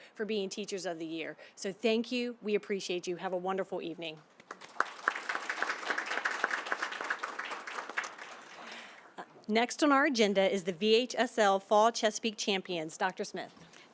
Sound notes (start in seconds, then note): 4.4 applause